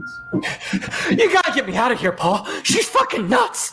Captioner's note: panting